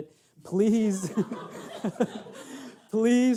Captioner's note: audience laughing